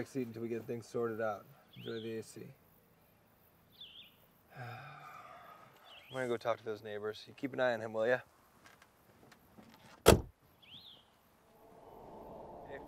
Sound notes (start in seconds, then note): 4.5 Cody sighs; 9.8 eerie music; 10.0 door thuds